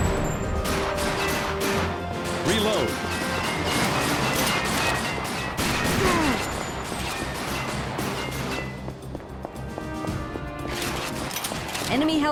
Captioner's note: game audio